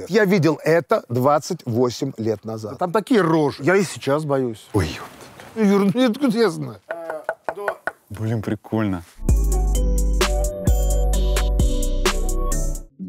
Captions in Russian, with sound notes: Я видел это 28 лет назад. Там такие рожи… Я и сейчас боюсь. Ой, епта… Ну, Юр, ну откуда я знаю? (стучит) Блин, прикольно! (музыкальная заставка)